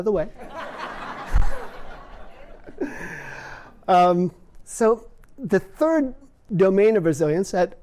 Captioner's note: laughter